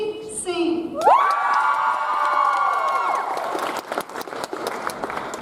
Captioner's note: audience applauds